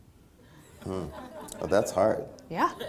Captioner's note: laughter